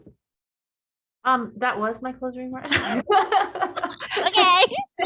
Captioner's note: laughing